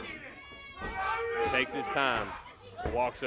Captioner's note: crowd chatter